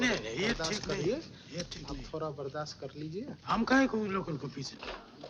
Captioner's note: speaking in foreign language